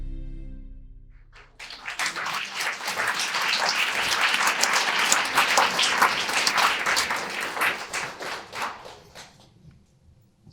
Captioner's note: audience applause